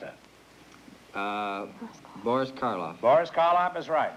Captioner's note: whispering